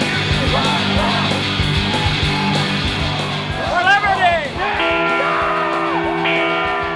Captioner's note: bell rings